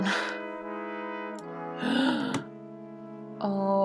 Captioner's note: gasps